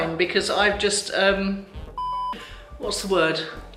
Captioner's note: beep